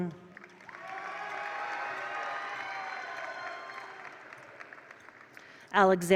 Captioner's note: attendees cheer; attendees applaud